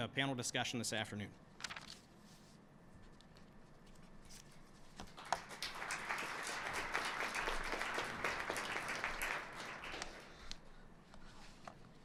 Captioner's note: applause